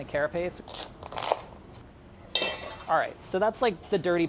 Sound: crunching

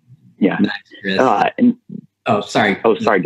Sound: audio warps

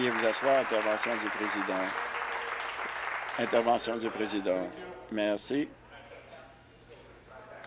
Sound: applause

